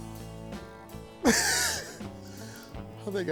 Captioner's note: laughs